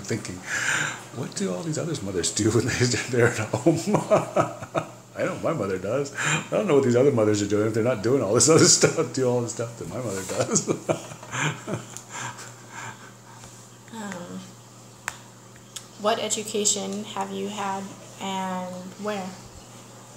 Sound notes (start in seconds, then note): 13.7 laughs